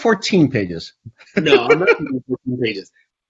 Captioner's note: laughs